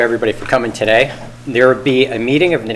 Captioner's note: gavel bangs